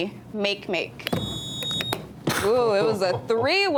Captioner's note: buzzer beeps